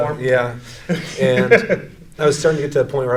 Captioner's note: laughs